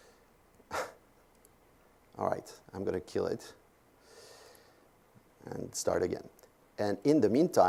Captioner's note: laugh